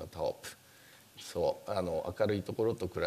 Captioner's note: speaking japanese